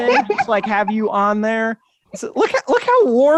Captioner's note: chuckles